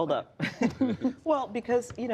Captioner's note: laughter